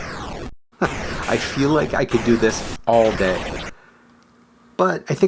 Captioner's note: chuckles